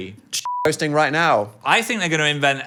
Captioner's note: beep